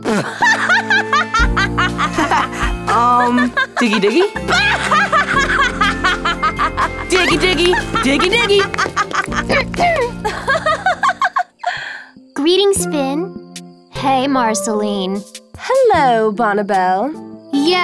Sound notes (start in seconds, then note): 0.2 Marceline laughing; 9.6 Princess Bubblegum clears throat